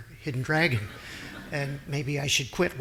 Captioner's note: audience laughing